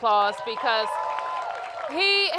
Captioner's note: applause